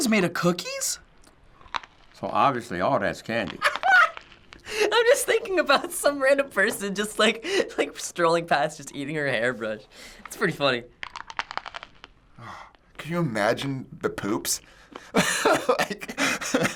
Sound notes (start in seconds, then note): 3.6 laughs; 10.8 crunching; 15.0 laughs